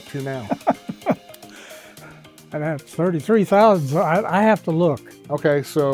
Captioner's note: laughs